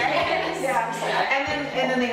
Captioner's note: laughs